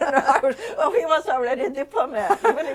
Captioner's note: laughter